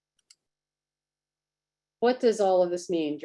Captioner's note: mouse clicks